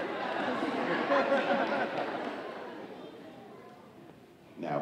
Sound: audience laughing

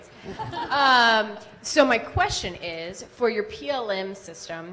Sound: audience laughs

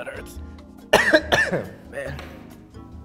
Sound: coughs

